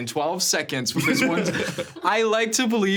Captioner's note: laughing